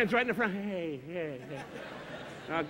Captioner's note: Don stuttering; audience laughing